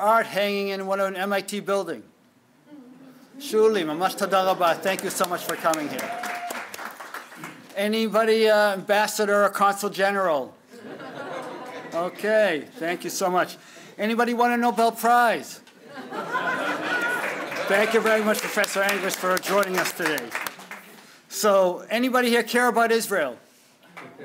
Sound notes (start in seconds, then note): 3.2 speaking hebrew; 4.8 applause; 10.7 laughter; 15.8 laughter